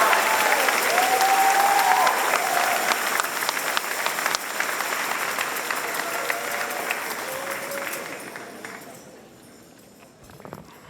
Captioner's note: applause and cheers